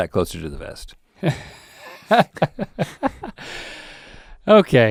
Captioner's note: Link laughing